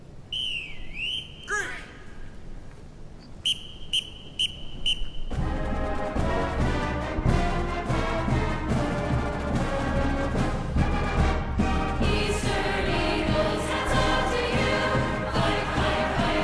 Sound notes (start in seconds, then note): 0.3 whistle; 3.3 whistles; 11.2 singing